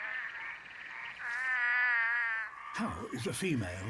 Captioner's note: croaks